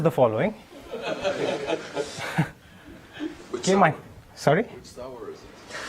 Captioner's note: laugh